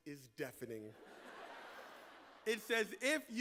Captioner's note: laughter